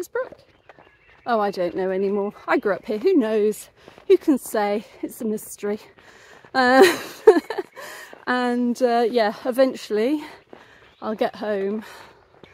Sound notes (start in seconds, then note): 6.7 laughing